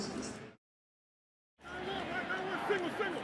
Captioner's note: pa announcement